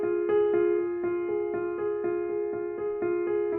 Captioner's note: none